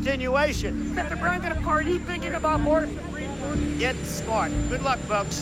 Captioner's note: English language spoken